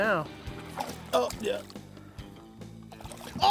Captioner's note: grunt